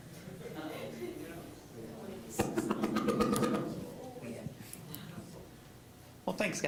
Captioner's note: general chatter